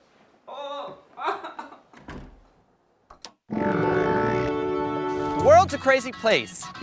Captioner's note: crying